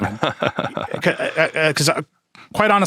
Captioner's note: Chuck laughing